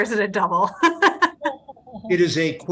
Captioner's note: laughing